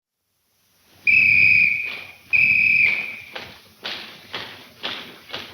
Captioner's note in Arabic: صافرة قوية